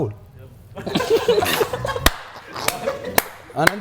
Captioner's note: laughing